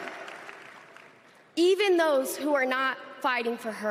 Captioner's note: applause